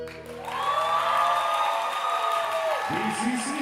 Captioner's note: audience cheering and applauding